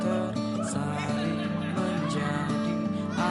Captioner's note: laughing